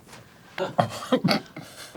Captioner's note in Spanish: gaguea un poco